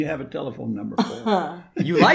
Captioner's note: single laugh